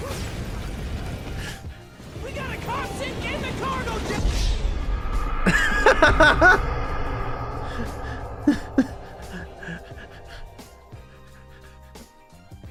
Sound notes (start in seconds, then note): 5.4 laughing